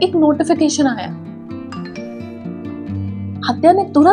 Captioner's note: notification sound